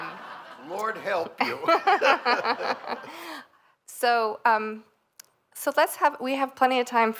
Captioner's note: laughter